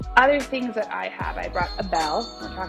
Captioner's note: bell ringing